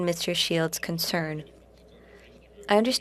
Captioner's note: speaking French